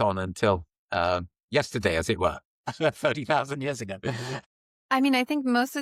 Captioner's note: laughs